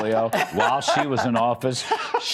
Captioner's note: laughter